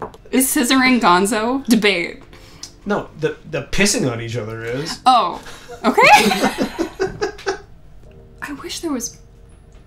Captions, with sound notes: Is scissoring gonzo? Debate! No! The—the p*ssing on each other is! Oh! Okay [LAUGHS] I wish there was—